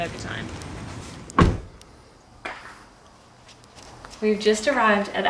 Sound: car door slams

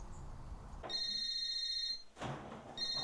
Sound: phone rings

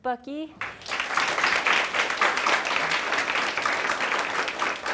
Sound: audience claps

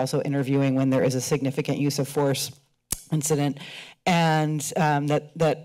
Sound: kisses teeth

